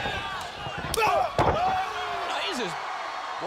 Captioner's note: crowd chatter